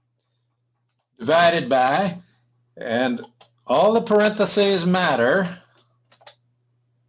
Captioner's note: typing